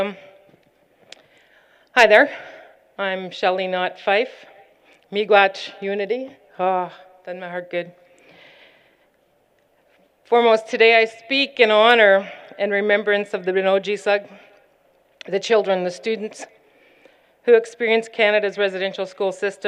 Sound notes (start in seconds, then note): 5.5 non-english